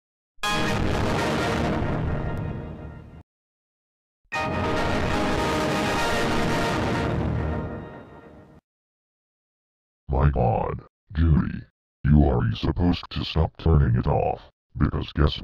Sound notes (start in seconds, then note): 0.2 Windows Server 2003.EXE Shutdown Sound; 4.4 Windows Server 2003.EXE Startup Sound